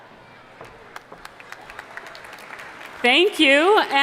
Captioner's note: audience applauding